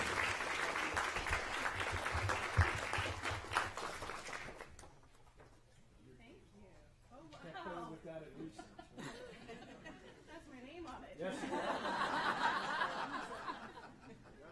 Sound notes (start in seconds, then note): 4.5 applause